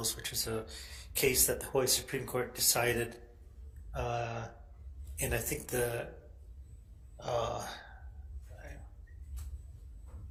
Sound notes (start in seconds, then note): none